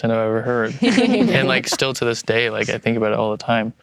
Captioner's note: everyone laughs